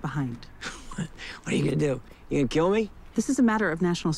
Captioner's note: chuckles